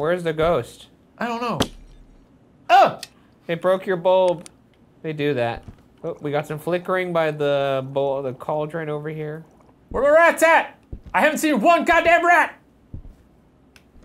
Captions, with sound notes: Where's the ghost? - I don't know. (light bulb shatters) - It broke your bulb. They do that. Oh, we got some flickering by the cauldron over here. - Where the rats at? I haven't seen one goddamn rat!